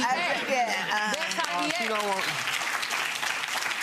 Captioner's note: audience clapping